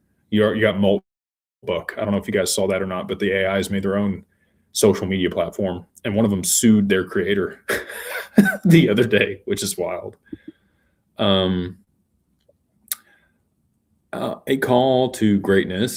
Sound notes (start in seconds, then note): 7.7 laughter